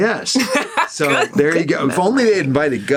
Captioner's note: Seehorn laughs